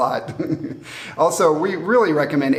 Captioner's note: laughs